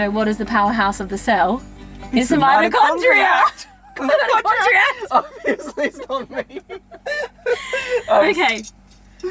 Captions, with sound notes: "What is the powerhouse of the cell?" It's the mitochondria. - It's the mitochondriact. (laughing) - "Mitochondriact." - Obviously, it's not me. - Okay.